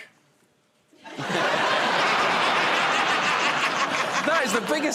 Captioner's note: laughter